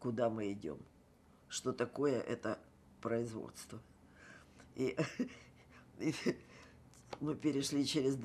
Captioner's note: laughing